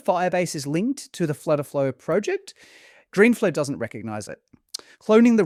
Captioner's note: smacks lips